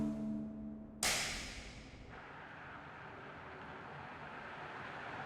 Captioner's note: lights snap off